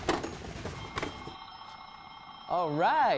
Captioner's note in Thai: เสียงเครื่องสล็อต